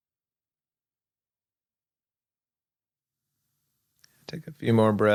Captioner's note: silence